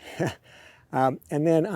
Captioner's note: laughs